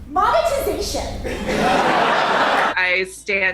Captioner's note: laughter